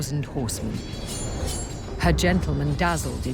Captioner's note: swords clanging